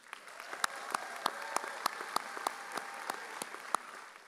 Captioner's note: audience applauding